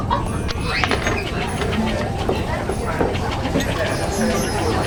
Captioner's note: conversation and laughter